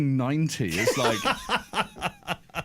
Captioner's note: laughs